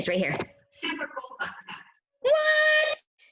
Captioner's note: automated Voice